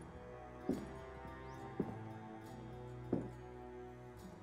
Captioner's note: bootsteps